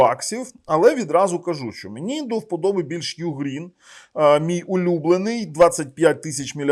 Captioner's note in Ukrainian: сопіння